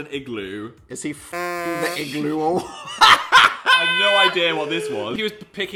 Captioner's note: honk